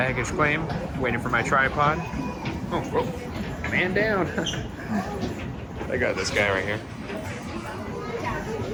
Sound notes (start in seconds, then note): 4.8 laughs